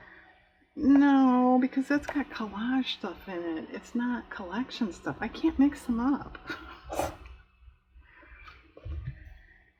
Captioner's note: laughs